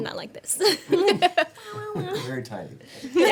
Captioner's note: everyone laughing